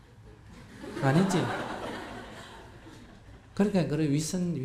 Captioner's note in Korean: 청중웃음